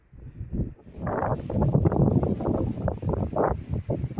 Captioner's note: more heavy wind